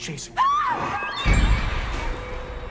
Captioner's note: Elaine screams; sinister music